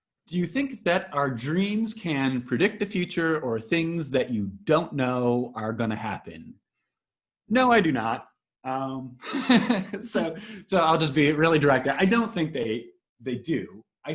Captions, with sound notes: Do you think that our dreams can predict the future or things that you don't know are gonna happen? No, I do not. (laughing) So I'll just be really direct, I don't think they do.